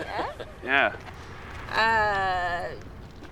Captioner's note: laughs